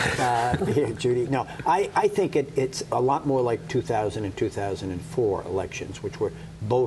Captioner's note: laughter